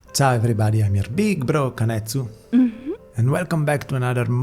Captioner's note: mmh